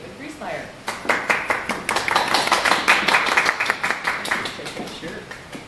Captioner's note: applause